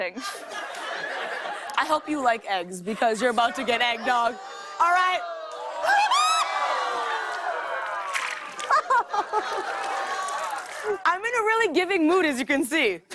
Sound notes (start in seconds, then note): 0.1 laughter; 5.2 audience ohs; 8.6 laughter